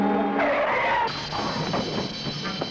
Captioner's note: tires screeching; Dave thuds; tense music